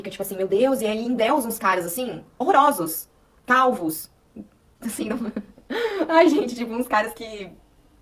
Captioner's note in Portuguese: risadas